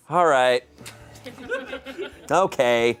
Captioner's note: audience laughing